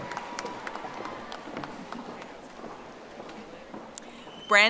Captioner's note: audience applauding